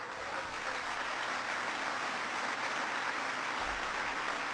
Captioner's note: applause